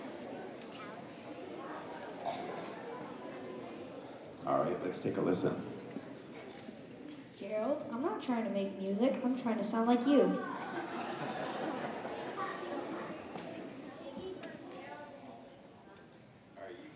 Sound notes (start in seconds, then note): 11.0 audience chattering